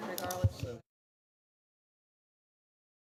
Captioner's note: audio turns off